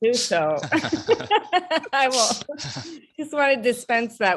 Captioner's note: laughing